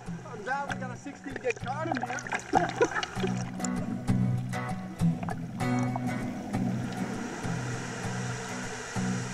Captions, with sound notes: Well, I'm glad we've got a 16 gig card in here. (laughing)